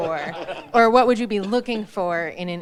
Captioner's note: all chuckle